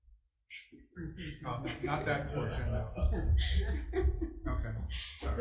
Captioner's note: all laugh